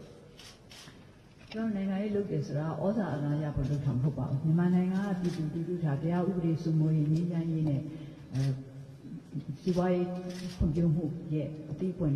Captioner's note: in Burmese